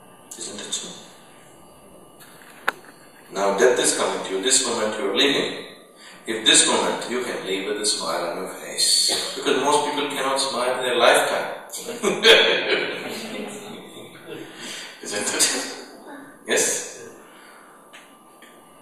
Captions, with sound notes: Isn’t it so? Now death is coming to you, this moment you're leaving; if this moment you can leave with a smile on your face... because most people cannot smile in their lifetime! (Laughter) Isn’t it? Yes?